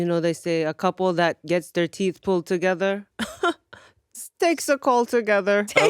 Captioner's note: laughs